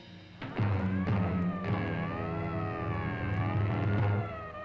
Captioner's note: siren blaring